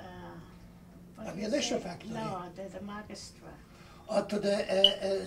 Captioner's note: They converse in Polish